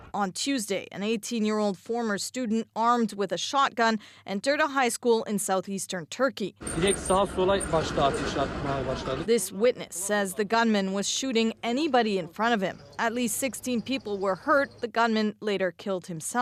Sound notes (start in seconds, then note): 7.9 speaking alternate language